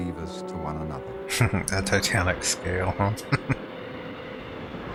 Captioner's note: chuckling